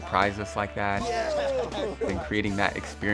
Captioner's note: laughing